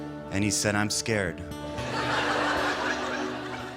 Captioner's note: laughter